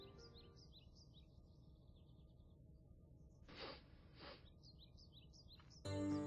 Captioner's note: sound of a bear sniffing the air